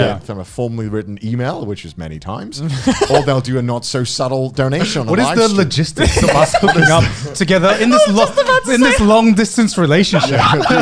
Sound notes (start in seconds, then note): 2.5 laughs